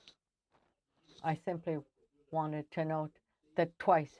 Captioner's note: speaking French